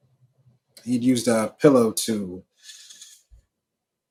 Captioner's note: sharp inhale